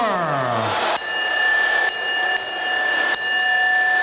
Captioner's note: bell ringing